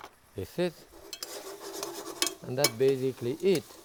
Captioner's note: pan scraping; spoon clanging